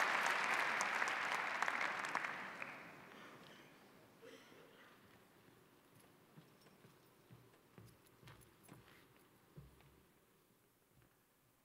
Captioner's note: applause